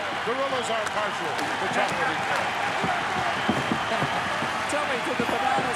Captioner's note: applause